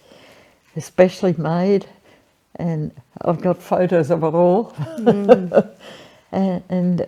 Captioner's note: laughs